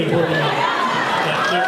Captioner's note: laughs